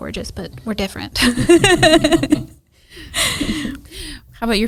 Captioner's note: everyone laughs